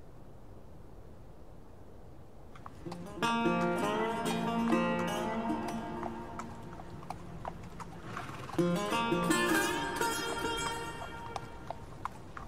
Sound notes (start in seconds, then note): 2.5 horse hooves clopping; 2.8 somber guitar music